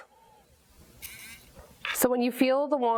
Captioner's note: wand vibrates